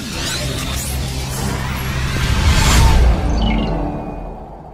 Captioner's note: electronic tones